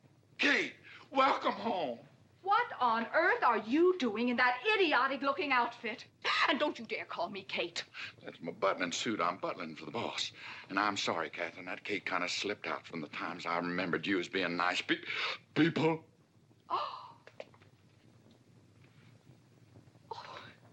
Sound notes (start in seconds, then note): 15.1 gasps; 15.8 exasperated tone; 16.6 Katherine gasps